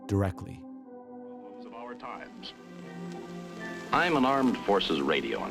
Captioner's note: soundbite of tv show, "the big picture"